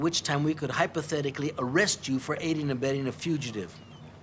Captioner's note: none